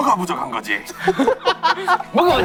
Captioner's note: the original writer can't stop laughing